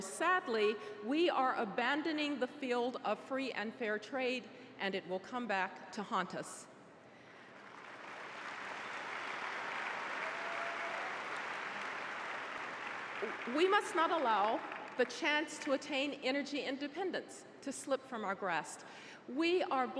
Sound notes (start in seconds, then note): 7.4 applause